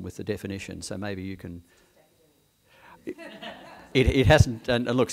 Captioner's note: background chuckles; background conversations